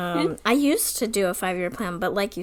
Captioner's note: laughs